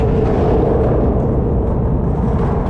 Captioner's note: rumbling skateboard wheels echoing through the pipe